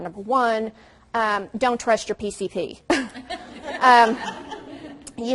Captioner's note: audience laughs